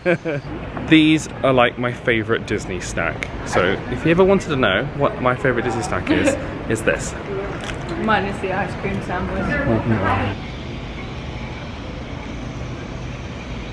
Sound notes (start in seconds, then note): 7.5 munching; 10.8 birds chirping